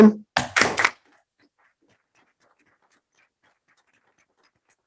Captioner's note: group applauding